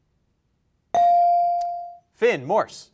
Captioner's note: bell rings